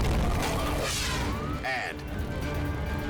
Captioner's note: fire roaring; scene swooshing